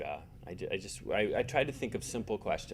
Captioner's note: stammering